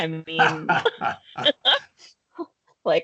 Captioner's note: laughing